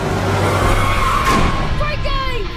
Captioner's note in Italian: pneumatici stridono